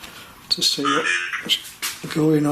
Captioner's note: Voice from Ovilus